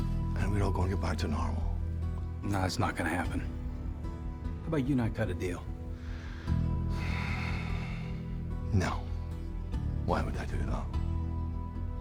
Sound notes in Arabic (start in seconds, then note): 6.0 تنهدات عميقة; 8.6 لكنة اسكتلندية